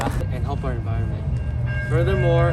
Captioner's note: train comes